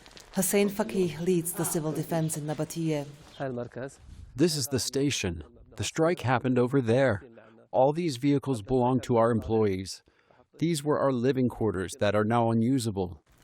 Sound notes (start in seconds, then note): 3.9 through translator